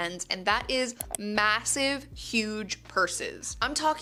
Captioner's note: mouse clicking